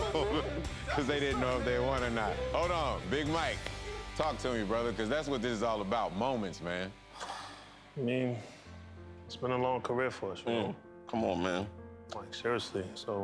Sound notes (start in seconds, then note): 0.0 laughs; 7.1 exhales